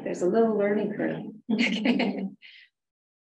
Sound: laughs

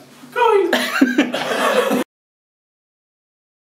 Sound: laughing

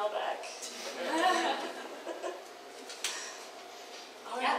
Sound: audience laughs

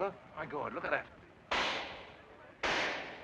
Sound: gunshot

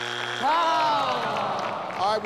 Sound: buzzer buzzes; audience groans

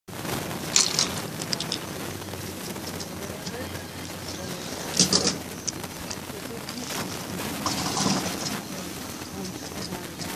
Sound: video glitching

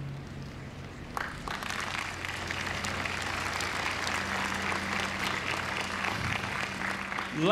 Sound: applause

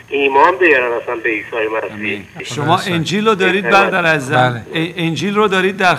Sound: speaking in foreign language

